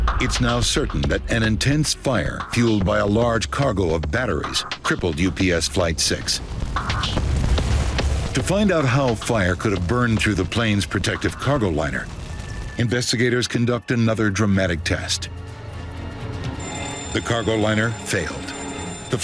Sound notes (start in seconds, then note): 0.0 intense music; 5.7 flames roaring; 16.0 intense music